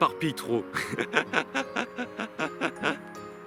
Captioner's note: laughs